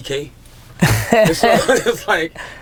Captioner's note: laughter